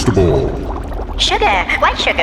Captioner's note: liquid bubbling